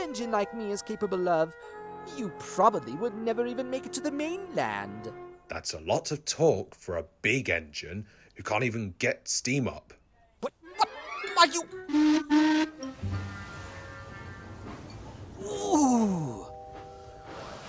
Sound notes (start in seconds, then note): 12.3 adam whistles